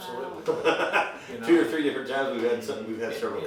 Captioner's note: laughing